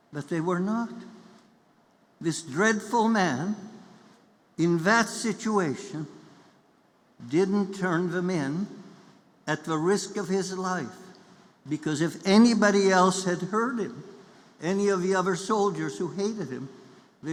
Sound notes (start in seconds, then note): none